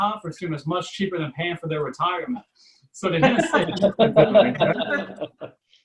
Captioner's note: audience Laughs